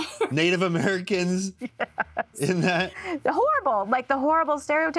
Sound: laughs

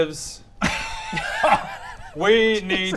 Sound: alarmed laughter

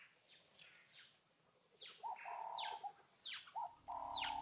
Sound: birds chirping

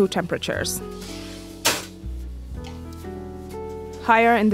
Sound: oven rack slides and clangs

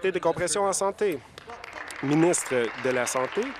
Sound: applause

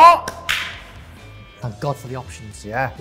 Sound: clapping

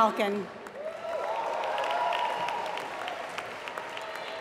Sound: applause

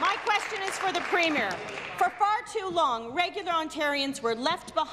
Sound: applause

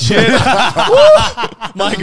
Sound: all laughing

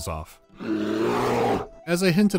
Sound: bear growl

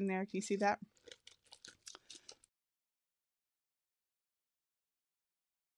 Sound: packaging rustles

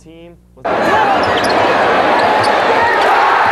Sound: crowd cheers; crowd cheers louder

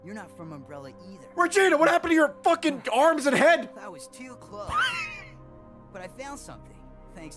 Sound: laughs

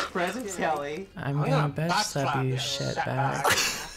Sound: laughs; reciting along; cracks up

